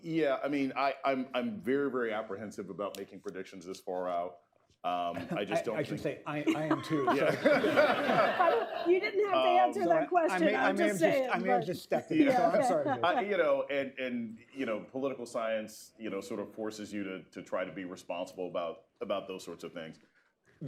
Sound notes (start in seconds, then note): 6.4 laughter; 6.4 laughs